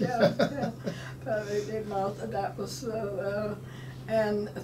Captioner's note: laughing